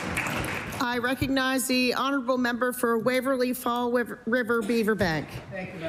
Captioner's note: applause